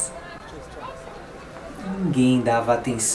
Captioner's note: pedestrians walking and talking